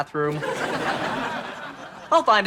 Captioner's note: laughs